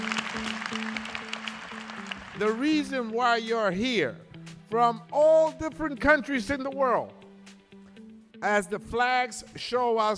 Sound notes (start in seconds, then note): 0.0 applause